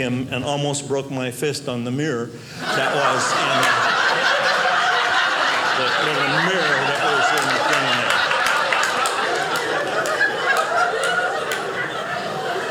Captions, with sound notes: and almost broke my fist on the mirror that was in there. (audience laughing) That little mirror that was in the thing there. (audience laughing)